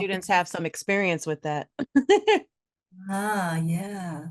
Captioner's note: laughs